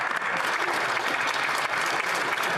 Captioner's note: applause